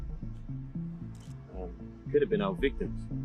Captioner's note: camera clicking